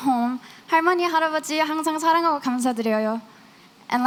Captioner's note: non-english